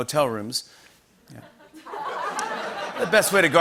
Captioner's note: laughter